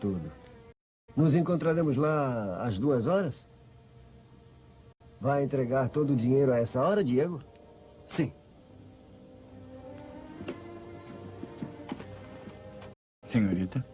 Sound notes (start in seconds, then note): none